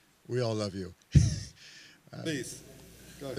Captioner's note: laughs